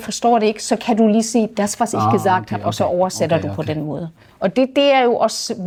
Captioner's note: in German